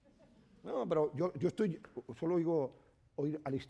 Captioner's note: speaking spanish